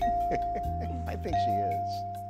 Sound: letters blinging

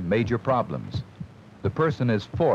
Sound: heartbeat sound

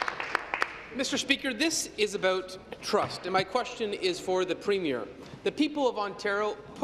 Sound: applause

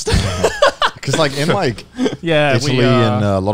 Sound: laughing

